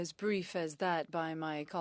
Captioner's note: speaking French